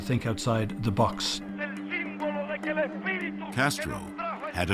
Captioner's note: shouting in Spanish